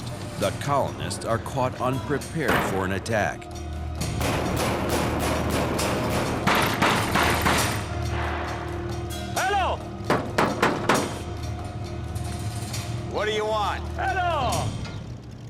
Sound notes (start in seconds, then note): 4.0 banging continues